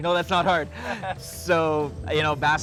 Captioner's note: laughter